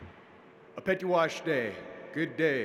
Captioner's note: speaking in native language